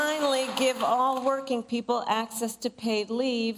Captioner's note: applause